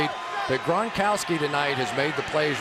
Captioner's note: crowd cheering